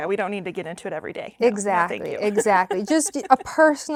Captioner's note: laughs